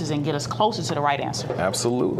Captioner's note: none